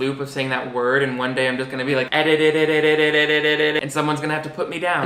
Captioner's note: stammering